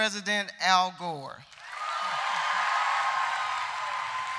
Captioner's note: applause